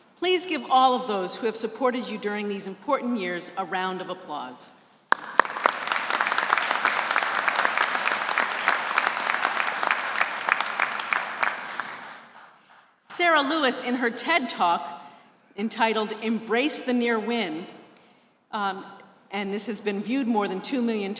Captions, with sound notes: Please give all of those who have supported you during these important years a round of applause. >>:(APPLAUSE) >>:Sarah Lewis, in her TED Talk entitled "Embrace The Near Win" - and this has been viewed more than 2 million